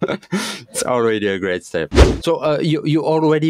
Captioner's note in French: rires